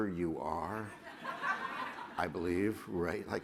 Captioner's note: laughter